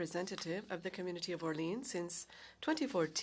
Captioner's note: speaking French